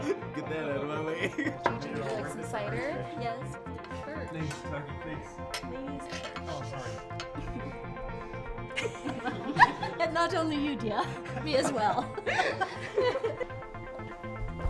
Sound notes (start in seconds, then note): 5.2 mellow synth music; 5.2 people chattering; 8.8 Lyla laughs; 12.3 people laughing